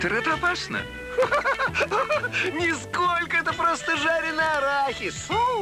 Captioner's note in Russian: смех